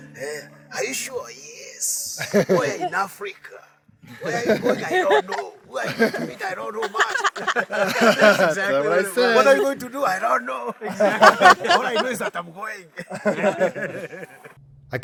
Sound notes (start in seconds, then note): 11.0 laughing